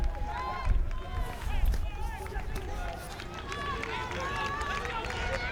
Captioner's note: crowd cheering and yelling